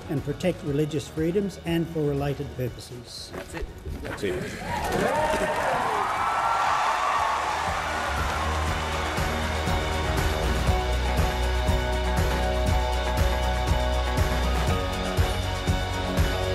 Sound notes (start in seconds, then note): 5.2 applauding and cheering